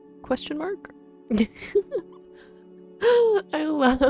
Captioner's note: giggling